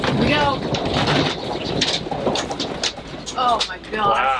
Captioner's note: RV rattling